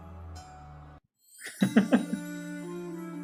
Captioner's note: laughs